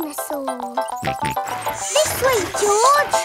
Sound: george snorts

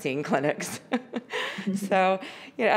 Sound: laughs

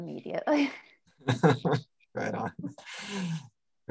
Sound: chuckles

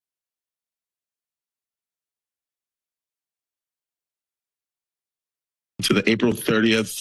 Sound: silence

